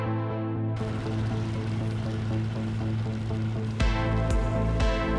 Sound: engine whirs; upbeat music

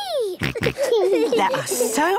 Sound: snorts, giggles

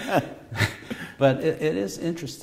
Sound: laughter

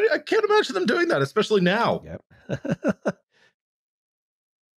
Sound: laughs

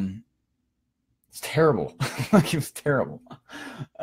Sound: laughing

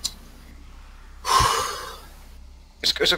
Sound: exhaling

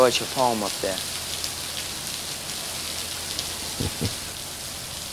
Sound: rain pouring

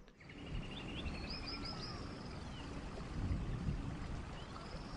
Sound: birds chirping

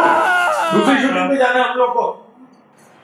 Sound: screams from behind

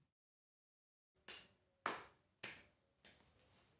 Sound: still clapping

